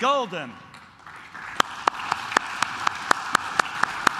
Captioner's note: claps